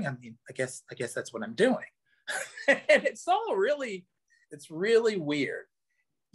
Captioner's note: laughs